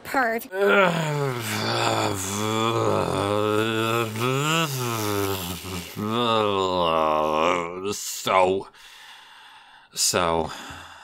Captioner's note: extremely exasperated noises